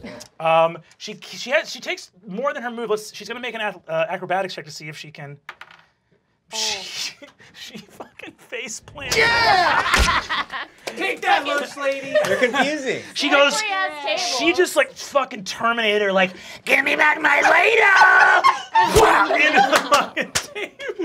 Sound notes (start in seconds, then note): 5.4 dice clacking; 9.7 thudding